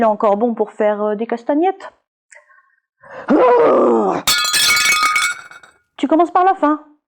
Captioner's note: sound of broken vase